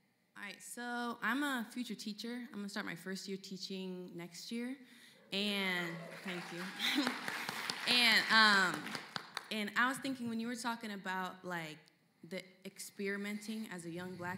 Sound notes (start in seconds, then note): 5.8 scattered cheering and applause